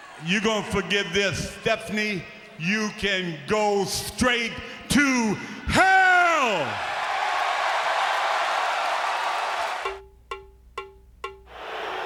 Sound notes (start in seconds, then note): 5.7 audience cheering; 9.4 drum music